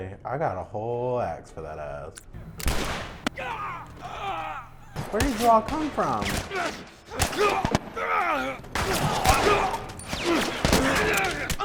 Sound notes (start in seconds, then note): 2.4 gun firing; 3.3 groaning; 6.7 gun firing; 7.9 grunting